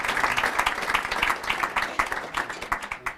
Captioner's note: applause